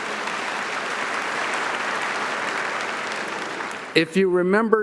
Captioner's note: audience applauding